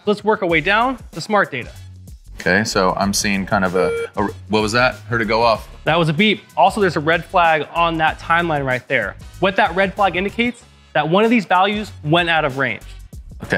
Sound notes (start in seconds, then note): 3.8 ZEUS+ beeps